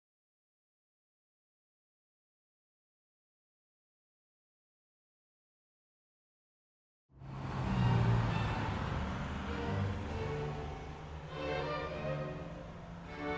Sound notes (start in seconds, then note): 7.1 traffic whirring; 7.2 dramatic orchestral music